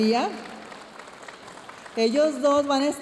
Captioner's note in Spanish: aplausos de la audiencia